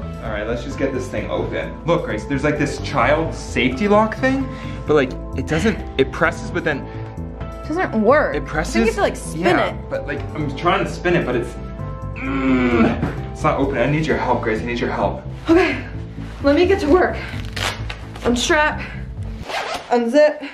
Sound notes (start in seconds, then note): 12.1 groans; 17.1 velco crackling